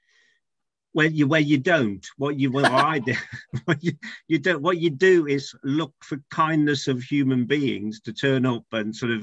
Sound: offscreen: laughs

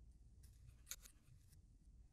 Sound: phone disconnects

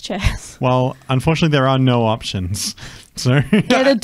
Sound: laughs

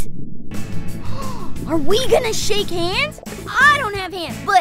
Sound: gasps

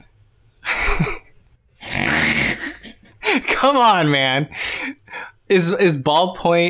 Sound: laughter

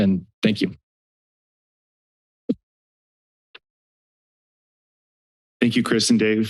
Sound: silence

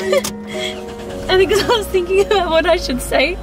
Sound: giggles

